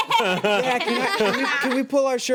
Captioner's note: everyone laughs